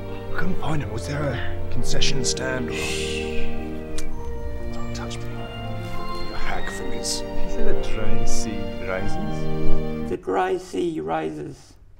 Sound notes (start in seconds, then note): none